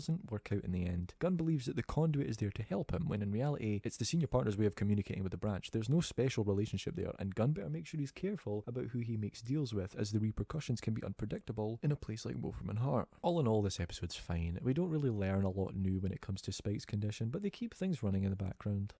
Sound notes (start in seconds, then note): none